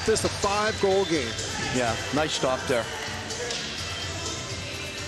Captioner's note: whistle